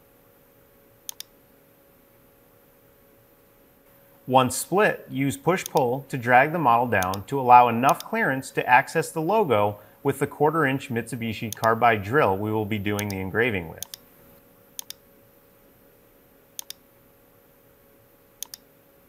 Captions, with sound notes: Once split, use push-pull to drag the model down to allow enough clearance to access the logo with the quarter-inch Mitsubishi carbide drill we will be doing the engraving with. (mouse clicking)